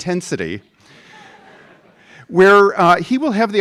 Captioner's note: laughs